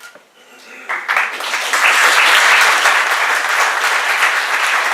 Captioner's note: applause